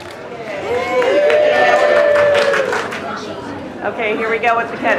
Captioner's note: applause